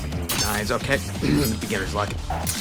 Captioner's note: clears throat